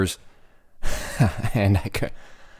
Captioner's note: chuckling